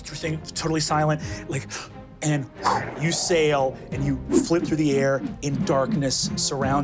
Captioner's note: gasps